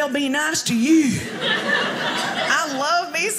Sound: audience laughing

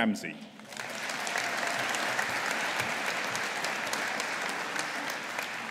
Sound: audience applauding

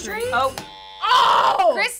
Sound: incorrect buzzer

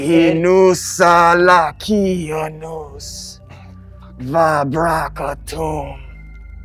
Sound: killer speaking in foreign language

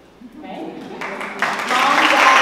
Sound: applause

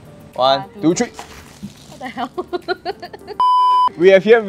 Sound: laughter

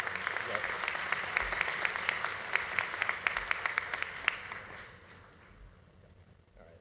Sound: audience applause continues; audience cheering continues

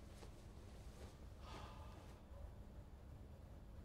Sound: sighs

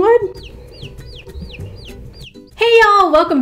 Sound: chick chirping

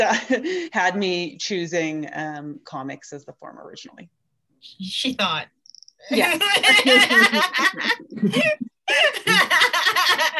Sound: laughter

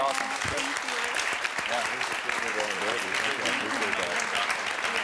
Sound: audience applauding

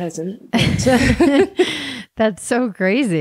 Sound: laughing

